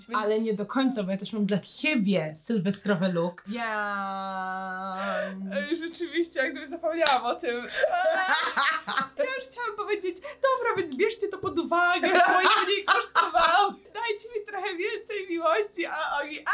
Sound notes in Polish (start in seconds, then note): 7.8 śmiech